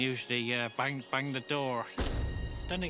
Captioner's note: banging